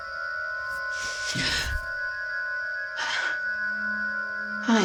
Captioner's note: Ally gasps